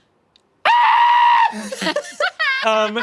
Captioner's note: screeches; laughing